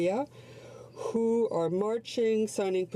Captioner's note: speaking French